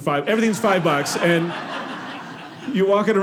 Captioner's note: audience laughing